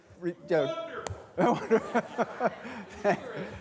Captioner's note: laughing